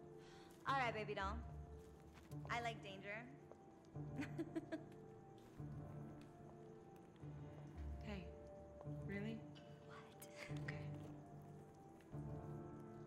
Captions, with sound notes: - Alright, baby doll. I like danger. (Laughing) - Hey, really? - What? - Okay.